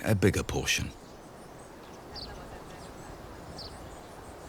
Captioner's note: birds chirping